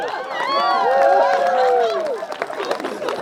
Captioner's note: cheering